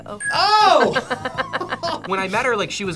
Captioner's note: both laugh